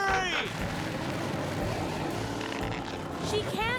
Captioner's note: engine Revving